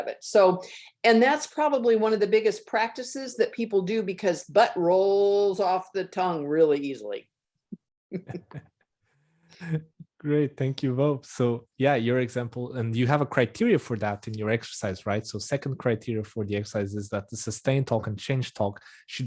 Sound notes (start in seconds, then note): 8.1 laughs; 8.1 laughing